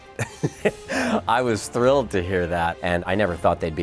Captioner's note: LAUGHs